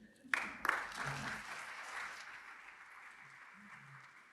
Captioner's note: audience applauding